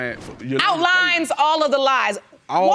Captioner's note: none